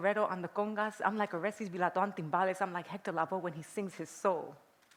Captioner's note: non-english